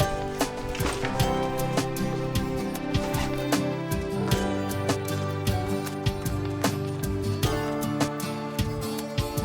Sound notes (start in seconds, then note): 3.0 zipper whizzing